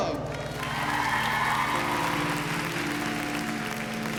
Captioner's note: cheering and applause